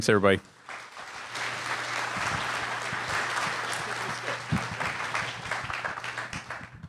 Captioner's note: applause